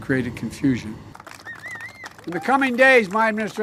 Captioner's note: applause